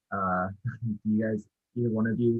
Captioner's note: chuckles